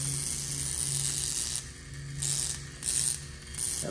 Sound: zapping

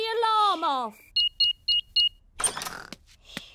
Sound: beeping

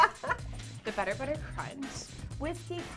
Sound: laughs

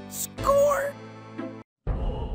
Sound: Point noise from 'Freddy Pharkas' is heard'

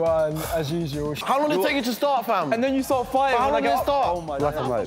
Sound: arguing

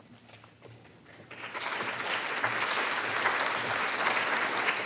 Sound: audience applause

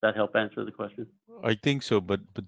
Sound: on phone

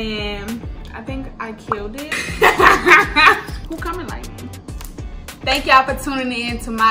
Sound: laughs

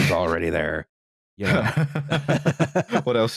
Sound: laughter

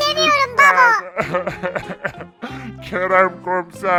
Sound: crying voice

